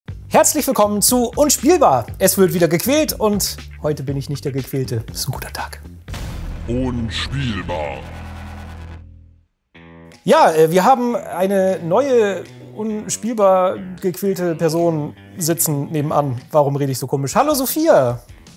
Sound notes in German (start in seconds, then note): 7.6 Dröhnen